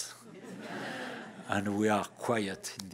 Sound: laughter

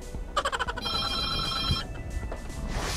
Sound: phone Rings

